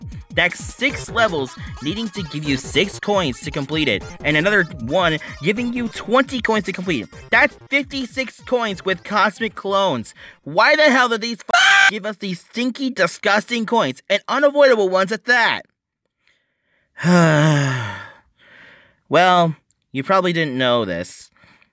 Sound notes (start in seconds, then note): 11.5 aaahhh